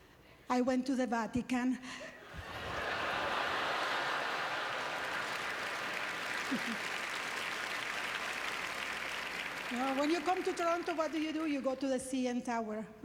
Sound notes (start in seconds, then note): 2.3 audience laughter; 4.9 applause